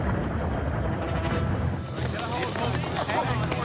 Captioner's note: thud sound